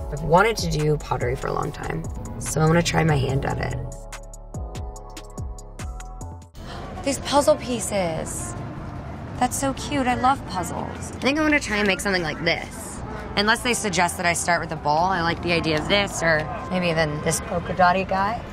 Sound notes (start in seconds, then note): 4.6 upbeat synth music; 6.5 gasps